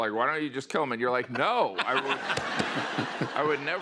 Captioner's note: laughter